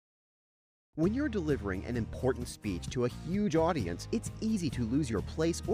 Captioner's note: voiceover